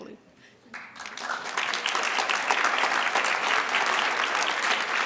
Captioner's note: audience applauds